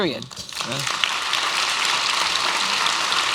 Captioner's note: applause